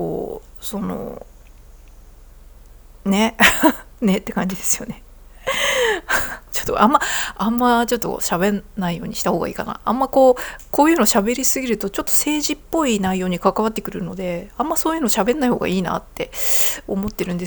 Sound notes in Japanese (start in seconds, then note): 3.4 笑い